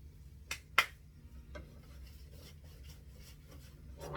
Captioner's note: clapping hands